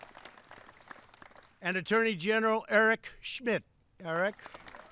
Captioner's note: applause